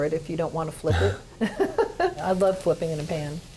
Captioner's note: both laughing